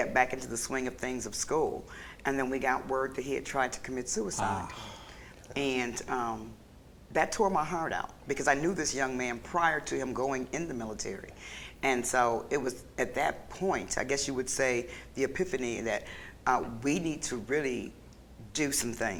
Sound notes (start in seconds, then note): 4.3 sighs